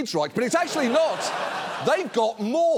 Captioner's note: audience laughs